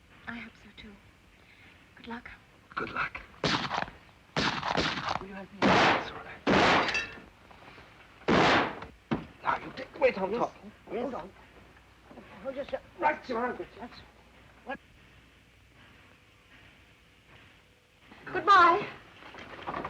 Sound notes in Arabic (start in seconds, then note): 3.4 طلقات نارية; 8.2 طلق ناري; 8.2 طلقات نارية